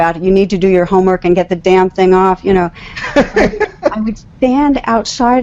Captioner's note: laughs